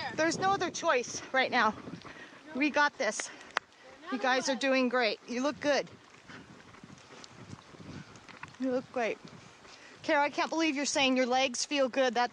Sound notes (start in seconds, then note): 6.1 sound of footsteps